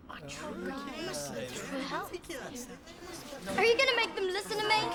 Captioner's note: crowd chattering